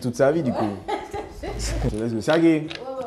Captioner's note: laughs